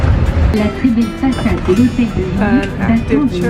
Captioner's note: french announcer speaking